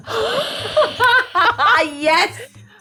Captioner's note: laughs